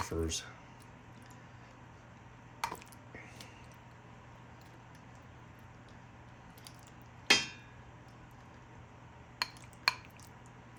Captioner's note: silence